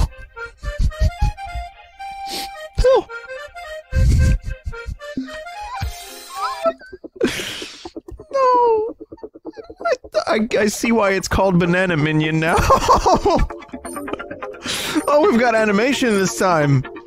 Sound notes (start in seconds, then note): 12.5 laughter